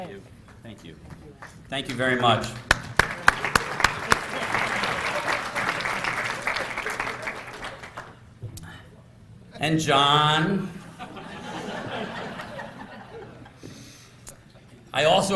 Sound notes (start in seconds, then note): 1.8 applause; 10.8 laughter